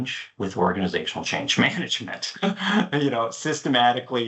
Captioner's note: chuckles